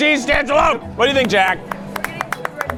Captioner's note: crew clapping